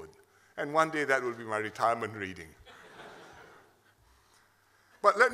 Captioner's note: laughter